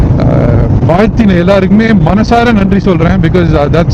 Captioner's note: in Tamil